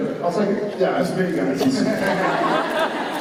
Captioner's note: Jared fakes laughter